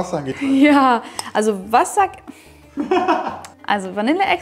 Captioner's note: laughing